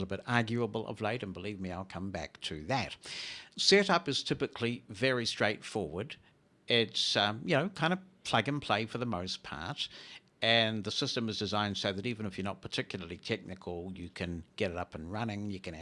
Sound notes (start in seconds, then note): none